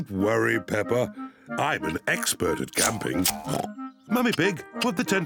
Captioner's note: oinks